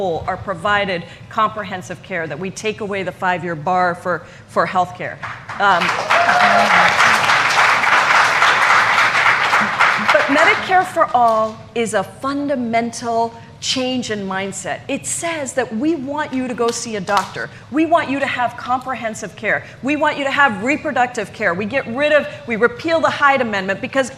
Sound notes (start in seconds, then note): 9.8 applause